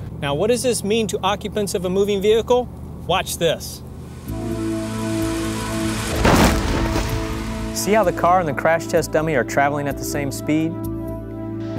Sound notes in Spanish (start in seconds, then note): 4.0 sonido de choque del vehículo